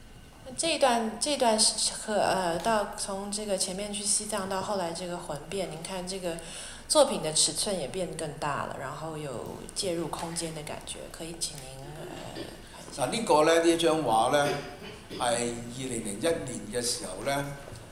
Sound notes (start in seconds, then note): 1.5 Mandarin; 14.4 Cantonese